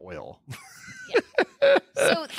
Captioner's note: laughing